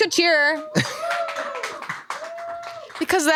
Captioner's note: crew members cheering